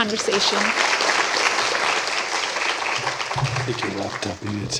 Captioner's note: applause